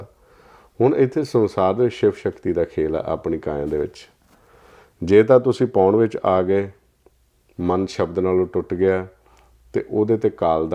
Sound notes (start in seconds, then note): 4.2 breath